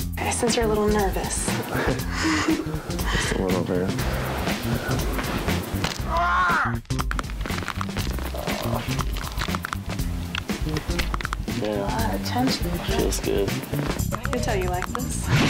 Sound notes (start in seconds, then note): 5.7 bones cracking; 15.2 bones cracking